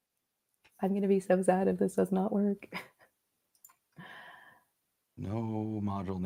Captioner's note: laughter